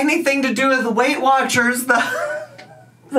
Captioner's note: laughs